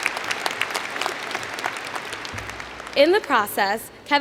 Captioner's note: applause